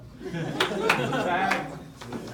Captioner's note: laughs